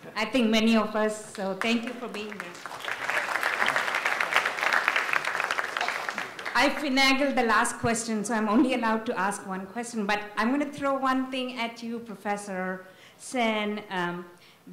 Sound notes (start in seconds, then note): 3.1 audience applauds